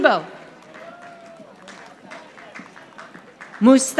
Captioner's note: audience applauding